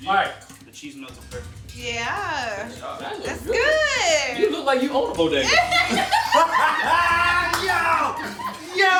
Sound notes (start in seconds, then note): 5.4 all laughing